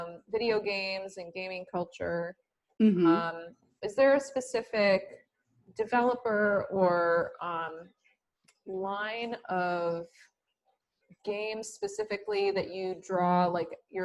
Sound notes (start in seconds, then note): none